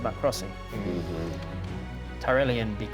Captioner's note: uneasy noises